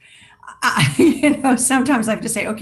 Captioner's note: laughs